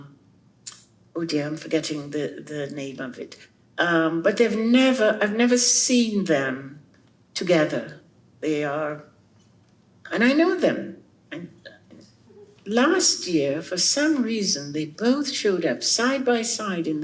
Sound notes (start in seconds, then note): none